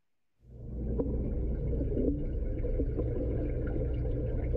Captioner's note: water bubbling